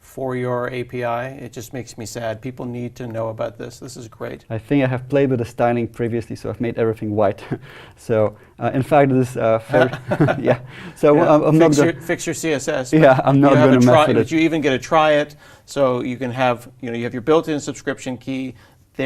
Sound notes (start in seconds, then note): 9.7 laugh